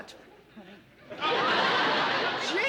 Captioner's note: laughter